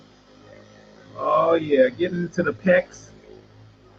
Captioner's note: vibrating